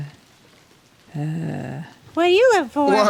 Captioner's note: groans